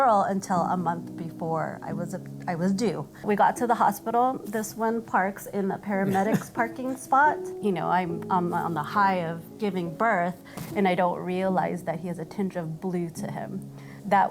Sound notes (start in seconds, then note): 6.0 chuckles